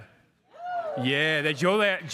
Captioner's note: crowd cheering